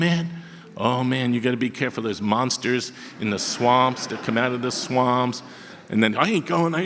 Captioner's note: audience laughter